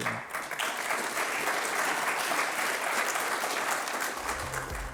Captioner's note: applause